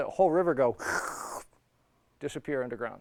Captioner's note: sucking